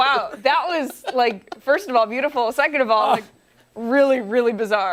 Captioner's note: laughter